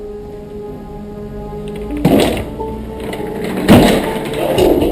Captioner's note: chairs banging